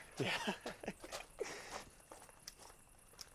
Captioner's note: chuckles